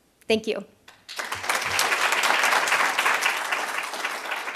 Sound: applause

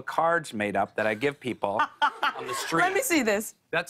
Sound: laughter

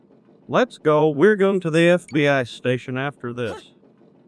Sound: Hank Hill Voice

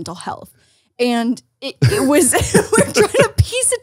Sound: laughs

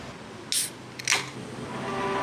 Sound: pssht

